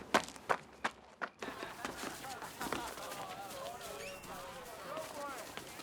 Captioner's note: students laughing and chattering